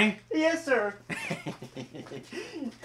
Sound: laughs

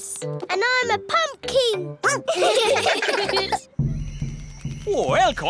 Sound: all giggling; barks

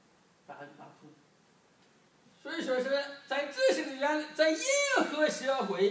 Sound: speaking foreign language

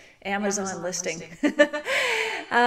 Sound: laughs

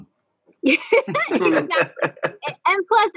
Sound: all laughing

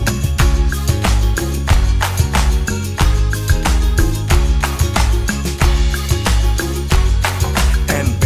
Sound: clap

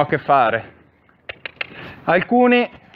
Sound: cluck

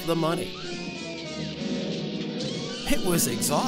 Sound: dramatic music; people scream

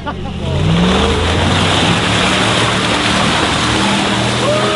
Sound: laughing; engine revving

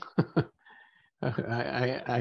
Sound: chuckles

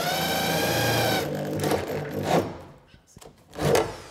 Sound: thud drilling sounds

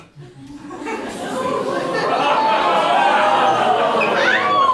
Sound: audience: "Oooooh!"

